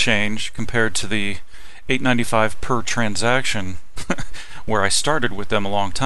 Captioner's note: laughing